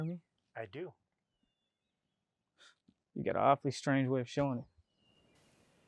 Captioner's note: scoffs